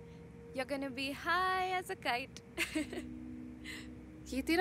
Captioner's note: Laughs